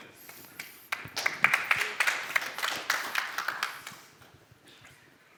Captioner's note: applause